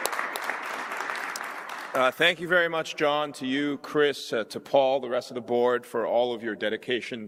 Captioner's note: applause